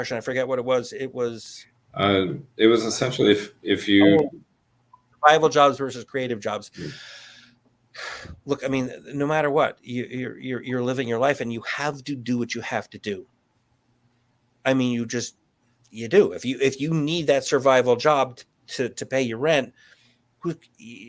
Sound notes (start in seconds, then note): 6.8 sighs